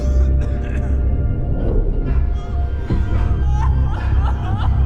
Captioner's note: uneasy music continues; person coughing; woman crying